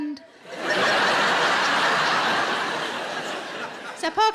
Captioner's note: audience laughing